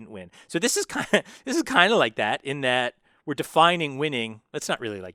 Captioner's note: laugh